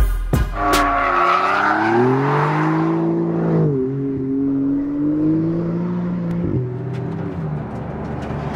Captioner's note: tire and engine sound